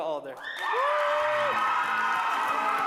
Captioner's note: applause